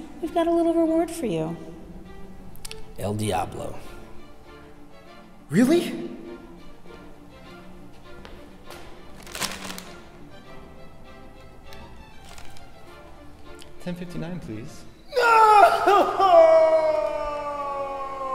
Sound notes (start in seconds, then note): 5.9 fast orchestral music; 15.1 cries